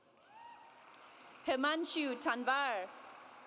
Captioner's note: audience applauds